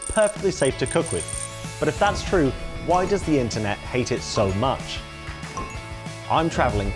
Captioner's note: electronic pinging